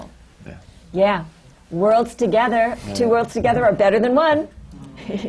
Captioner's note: laughter